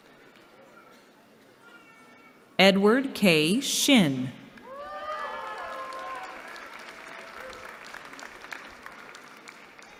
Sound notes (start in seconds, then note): 4.6 applause